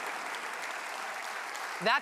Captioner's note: applause